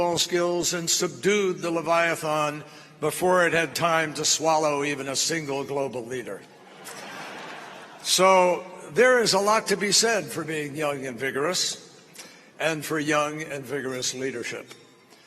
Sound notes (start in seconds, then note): 6.6 laughter